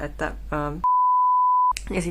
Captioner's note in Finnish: piippaus